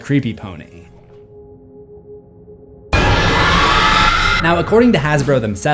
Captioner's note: screams